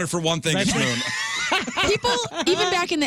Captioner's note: laughing